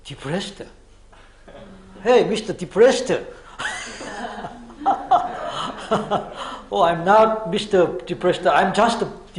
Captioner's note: laughs